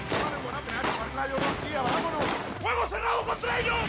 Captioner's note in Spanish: Disparos